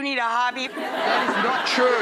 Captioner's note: audience laughs